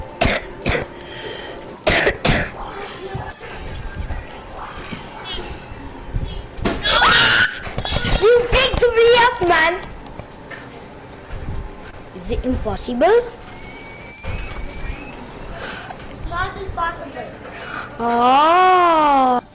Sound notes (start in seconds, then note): 0.2 coughs; 6.8 screaming